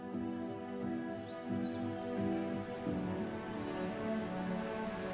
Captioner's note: birds singing